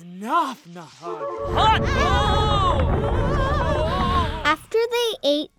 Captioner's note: both exclaiming